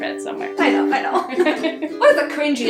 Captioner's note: both laughs